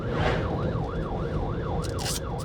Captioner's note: sirens